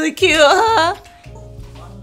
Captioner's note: little claps